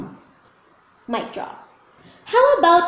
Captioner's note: mic drop